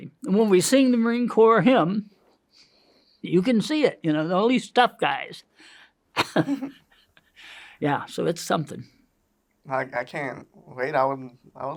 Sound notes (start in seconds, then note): 6.2 laughs